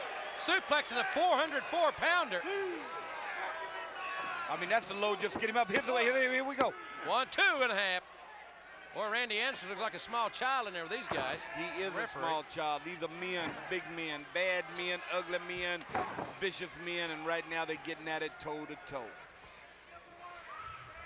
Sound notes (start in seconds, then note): 2.8 applause